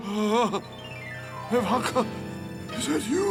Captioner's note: fearful gasp